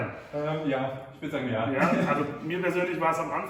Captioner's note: laughs